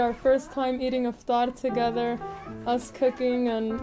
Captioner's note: speaks in foreign language